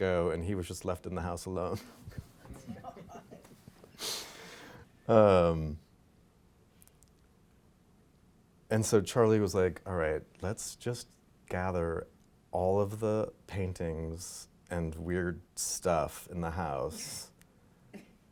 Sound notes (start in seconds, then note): 1.8 laughing